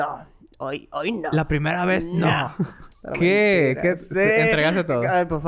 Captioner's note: laughs